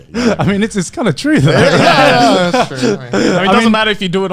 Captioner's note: laughing loudly